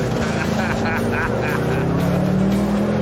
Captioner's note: laughter